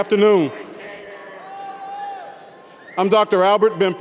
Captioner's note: audience cheers